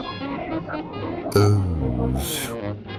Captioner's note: confused yet erotic grunting